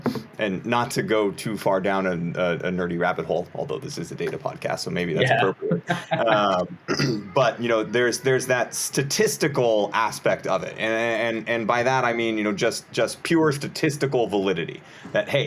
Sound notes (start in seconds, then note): 5.2 laughs; 6.8 clears throat